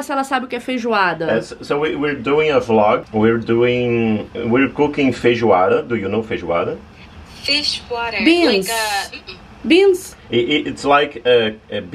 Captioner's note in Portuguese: conversa em inglês